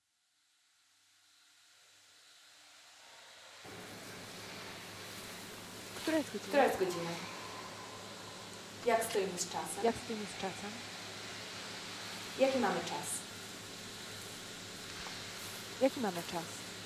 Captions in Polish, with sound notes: [szum] Która jest godzina? [zwielokrotniony głos] Jak stoimy z czasem? Jaki mamy czas? Jaki mamy czas?